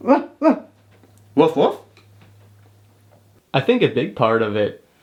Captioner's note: imitating dog barking